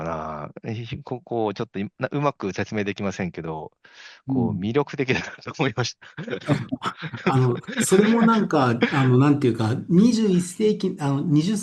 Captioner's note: laughs